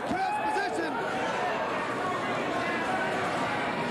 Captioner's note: cheers and applause